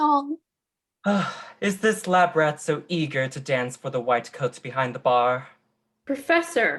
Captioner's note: sigh